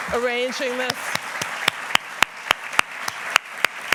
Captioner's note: applause